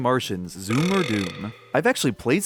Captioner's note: Belch